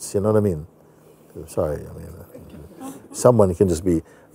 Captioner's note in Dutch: gelach